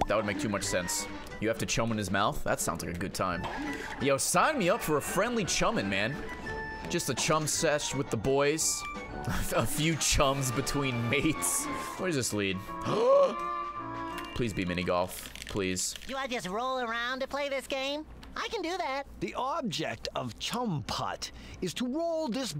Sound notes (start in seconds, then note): 12.8 gasps